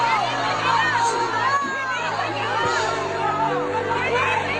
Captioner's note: crowd cheering